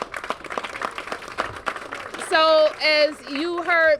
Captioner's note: applause